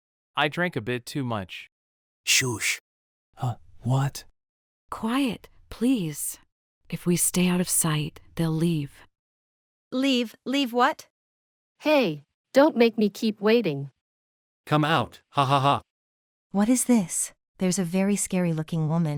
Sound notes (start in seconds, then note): 2.2 shhh!